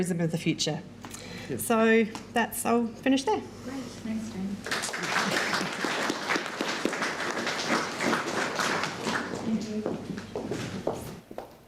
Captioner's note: clapping from audience